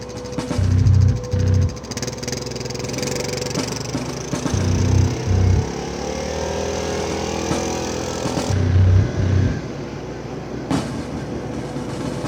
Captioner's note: ♫ Dramatic music plays ♫; sound of ATV on the move